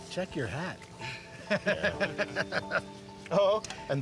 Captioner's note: laughing